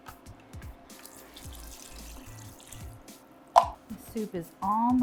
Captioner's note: broth pours